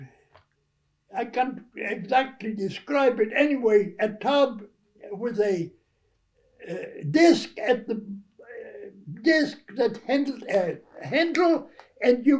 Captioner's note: butter churn